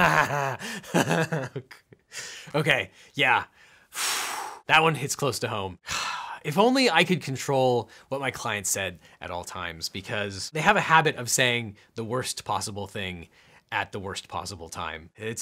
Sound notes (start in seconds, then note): 0.0 laughing; 3.5 exhales